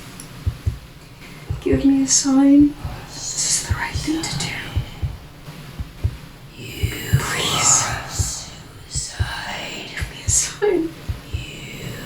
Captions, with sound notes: (pleading) give me a sign that this is the right thing to do PLEASE give me a SIGN